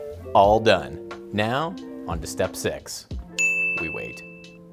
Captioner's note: dinging